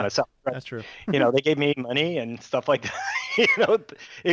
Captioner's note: chuckles